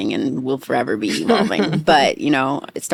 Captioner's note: laughing